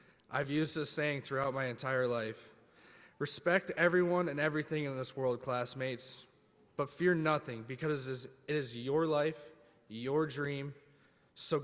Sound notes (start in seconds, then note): none